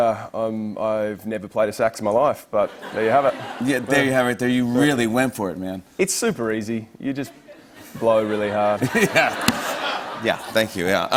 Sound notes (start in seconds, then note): 2.6 laughter; 7.4 laughter